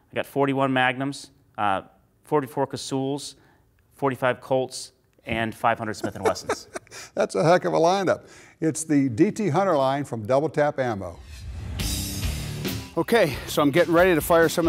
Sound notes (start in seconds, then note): 6.0 laughs